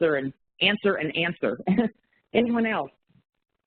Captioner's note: chuckles